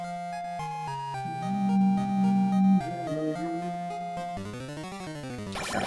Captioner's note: humming along